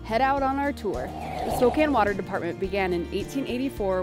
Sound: air whooshing

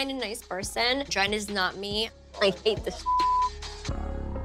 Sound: beep

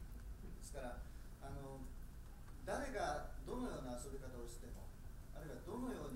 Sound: speaking in foreign language

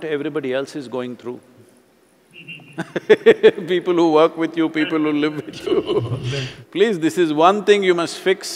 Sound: both Laugh; laughs

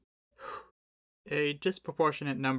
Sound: sigh

